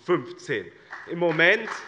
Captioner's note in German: Beifall bei dem BÜNDNIS 90/DIE GRÜNEN und der CDU